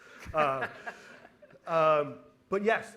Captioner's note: laughing